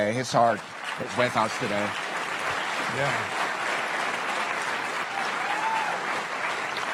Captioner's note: cheerand Applause